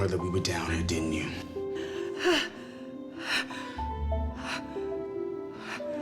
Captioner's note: breathing heavily